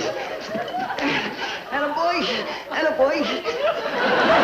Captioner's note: audience laughing